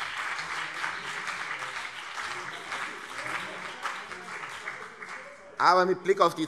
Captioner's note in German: Beifall CDU und BÜNDNIS 90/DIE GRÜNEN